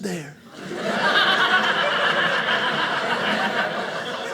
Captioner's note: audience laughing